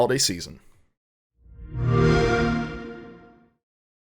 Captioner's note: xbox sound